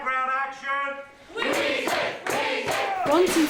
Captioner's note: chanting